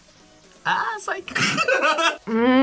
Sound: laughs

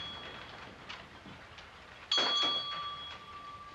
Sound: many clocks ticking; doorbell tinkling

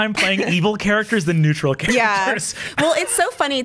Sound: both laugh

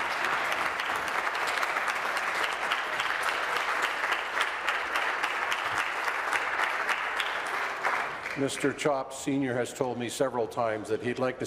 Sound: applause

